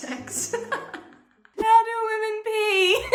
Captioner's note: she laughs